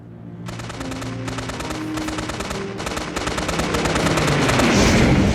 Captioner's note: gunfire